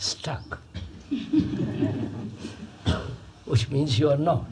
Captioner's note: laughter